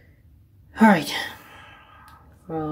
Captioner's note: sighing